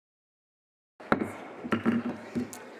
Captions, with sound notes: [ Gavel bangs ] >> THE SENATE WILL COME TO ORDER. I WOULD ASK EVERYONE PRESENT TO RISE AND RECITE THE PLEDGE OF